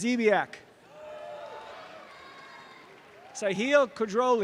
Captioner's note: audience cheering